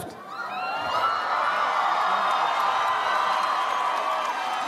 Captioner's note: audience applauds